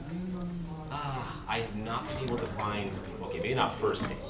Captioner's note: sigh